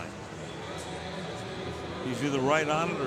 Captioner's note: pa announcement